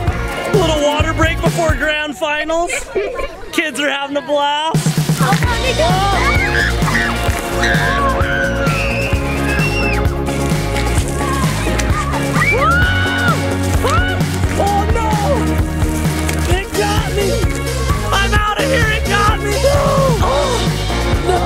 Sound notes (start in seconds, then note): 2.9 kids laughing and chattering; 5.8 kids shrieking